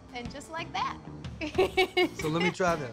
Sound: giggling

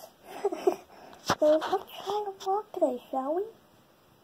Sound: laughs

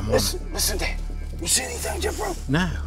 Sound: whispering

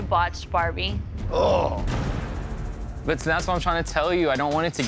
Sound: groaning

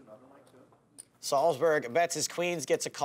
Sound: voiceover

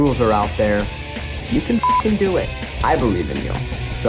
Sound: beep

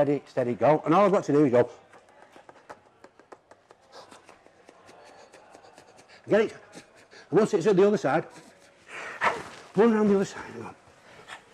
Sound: blowing noises

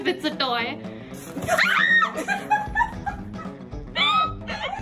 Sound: screams

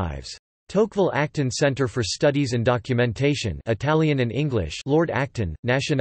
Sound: italian and English

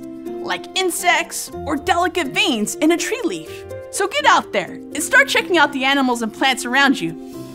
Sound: none

